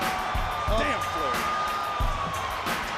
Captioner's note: crowd chatter